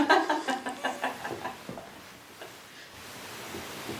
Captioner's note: woman in gown laughs